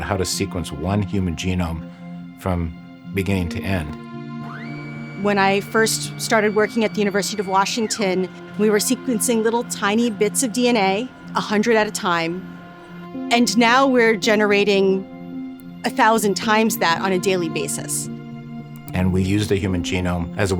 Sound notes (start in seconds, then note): 3.9 machinery whirring; 3.9 mellow music